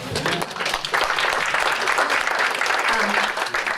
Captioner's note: applause